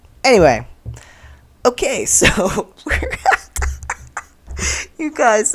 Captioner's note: laughter